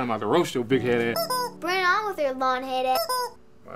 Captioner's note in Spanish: pitido